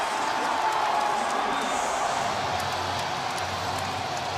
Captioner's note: pa announcement; upbeat music